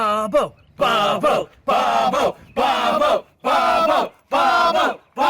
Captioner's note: all cheering "Bobbo"